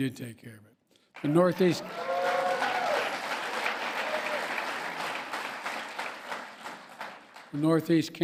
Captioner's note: applause